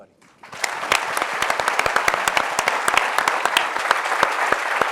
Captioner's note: audience applauds